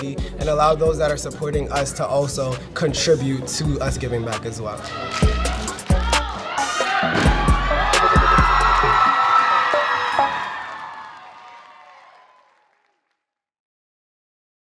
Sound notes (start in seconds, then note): 9.0 applause